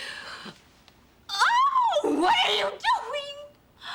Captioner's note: screams